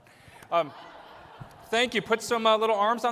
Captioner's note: laughter